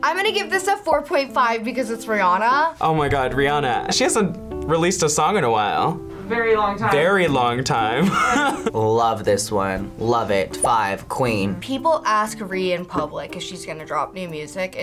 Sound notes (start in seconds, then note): 8.0 laughs